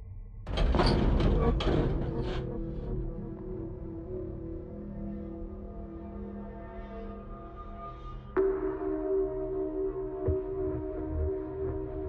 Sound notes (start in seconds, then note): 0.5 metal banging; 0.7 menacing music